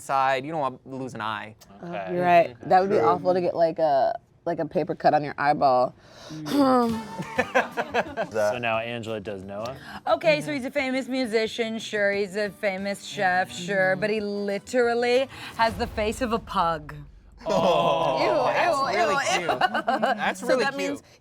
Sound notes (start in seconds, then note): 6.2 sighs; 6.8 laughs